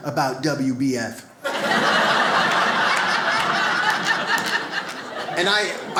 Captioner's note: audience laughs